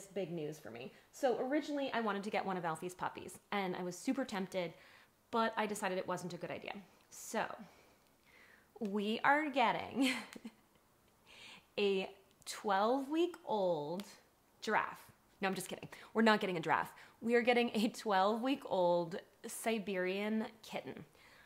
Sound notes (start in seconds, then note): 10.0 chuckles